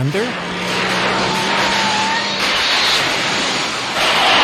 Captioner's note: electricity crackling